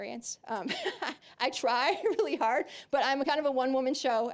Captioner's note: laughing